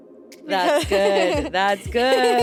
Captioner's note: chuckles